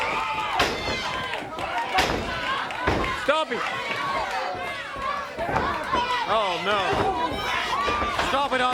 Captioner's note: crowd chatter